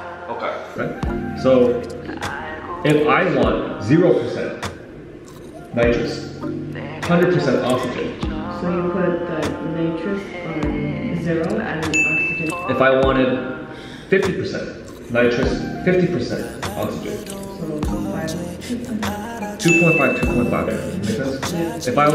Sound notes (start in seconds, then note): 11.9 bell dings